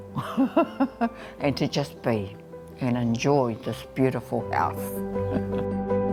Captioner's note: laughs; laughs